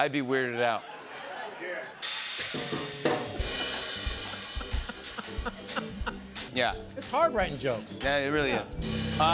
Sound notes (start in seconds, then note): 0.5 laughter; 3.6 laughs